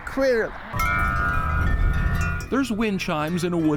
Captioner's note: chimes ringing